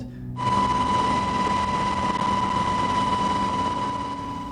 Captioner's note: helicopter whirring